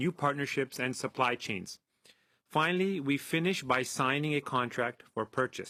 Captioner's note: speaking French